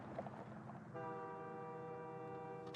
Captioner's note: train horns